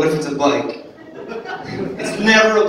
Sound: audience laughing

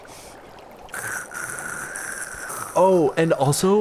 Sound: heavy breathing; slurping sounds

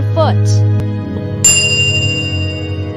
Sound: ding

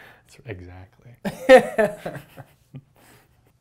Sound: laughs

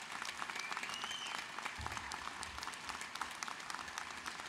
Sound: applause

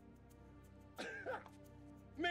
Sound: laughing

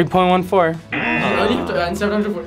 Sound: buzzer

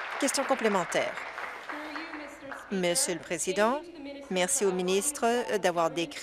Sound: applause

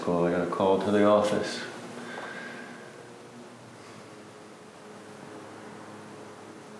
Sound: none

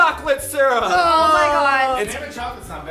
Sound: groaning

